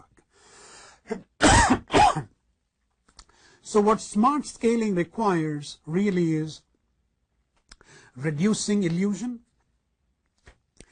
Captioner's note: cough